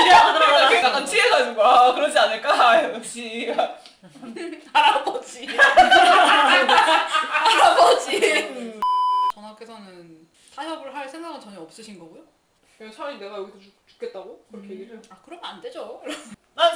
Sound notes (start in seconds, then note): 5.4 laughs